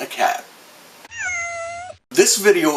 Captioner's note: sound fx: Cat meow